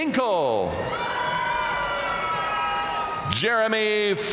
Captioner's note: audience cheering and applauding